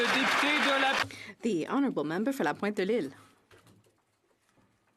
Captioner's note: some Applause